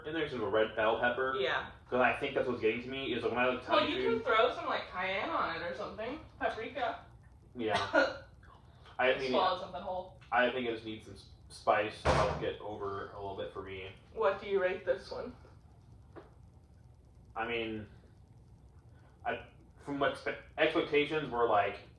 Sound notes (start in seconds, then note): 7.7 cough